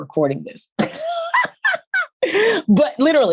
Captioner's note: laughs